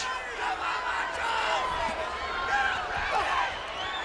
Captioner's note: crowd cheering